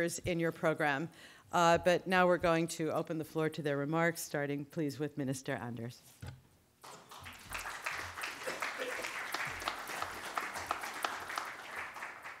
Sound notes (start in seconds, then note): 6.8 audience applauding